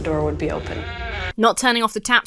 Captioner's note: door creaks